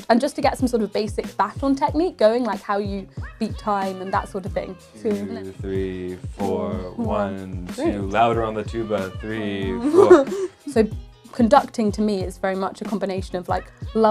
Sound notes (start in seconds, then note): 9.4 giggling